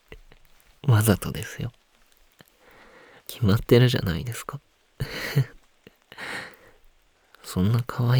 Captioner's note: laughs